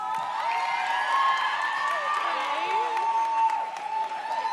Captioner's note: audience cheers